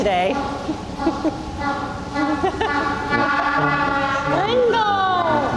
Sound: penguin braying

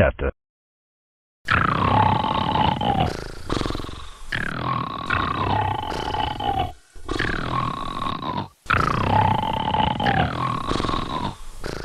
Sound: both snoring

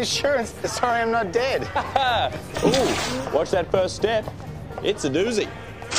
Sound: laughs

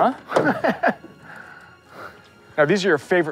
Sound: laughing

